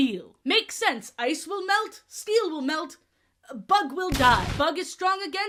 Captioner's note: explosion sfx